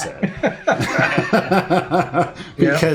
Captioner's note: laughter